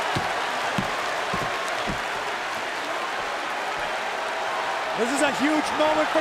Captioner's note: crowd cheering